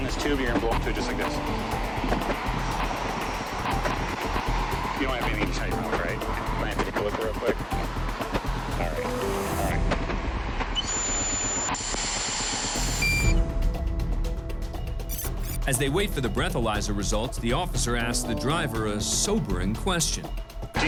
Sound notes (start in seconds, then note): 12.8 beep sound